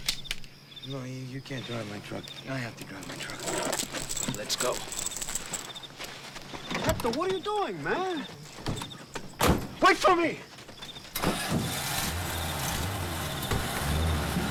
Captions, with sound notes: - No, you can't drive my truck, I have to drive my truck. - Let's go. - Hector, what are you doing, man? (truck door slams) Wait for me! (truck engine revs)